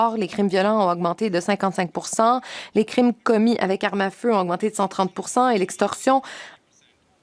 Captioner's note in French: voix de l'interprète